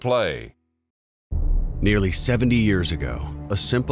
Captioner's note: tense music; voiceover